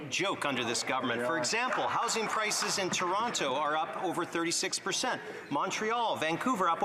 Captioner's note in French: voix de l'interprète